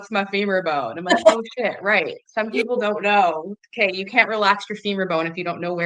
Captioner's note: laughs